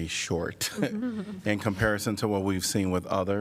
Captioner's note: laughter